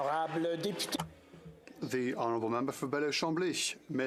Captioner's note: applause